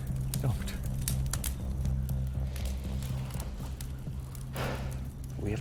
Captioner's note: fire crackling